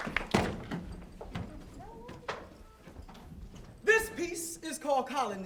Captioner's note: applause